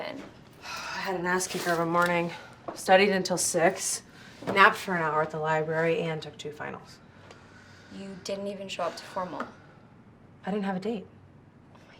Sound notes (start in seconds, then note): 1.1 sighs